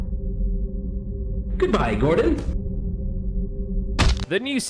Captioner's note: thunk